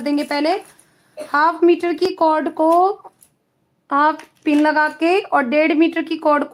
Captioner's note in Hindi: गला साफ़ करने की आवाज़